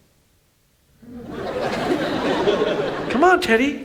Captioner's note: audience laughs